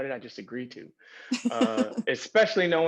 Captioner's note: laughs